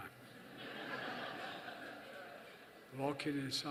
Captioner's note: laughter